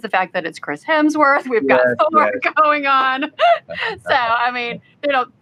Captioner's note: laughs